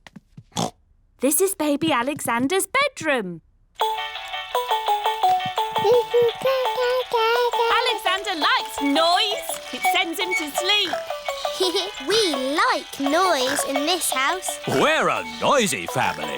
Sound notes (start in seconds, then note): 0.5 oinks; 4.2 mobile playing loud music; 5.8 cooing; 11.1 giggles